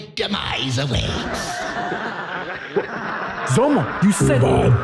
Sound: the room falls into laughter and applause

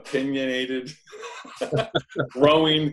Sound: laughs

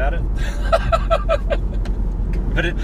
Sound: laughing

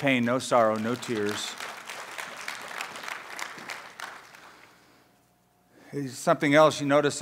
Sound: applause

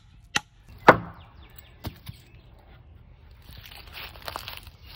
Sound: hammering; rustling

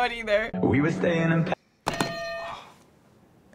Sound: hitting bell

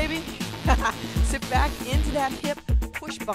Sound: chuckling

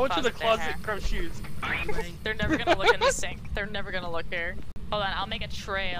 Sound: laughing

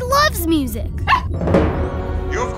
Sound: barking

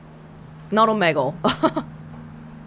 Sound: chuckles

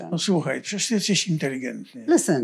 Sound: foreign language

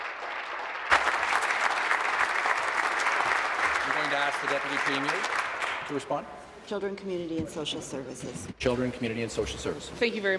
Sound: applause

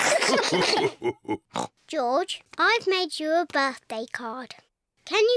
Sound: all laugh; oinks

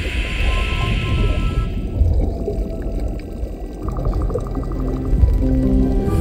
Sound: muffled underwater movements; somber music

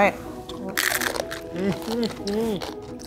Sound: chips crunching

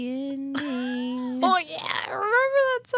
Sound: chuckles

